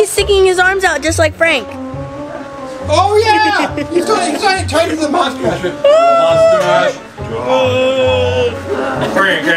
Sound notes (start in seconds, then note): 5.2 indistinct chatters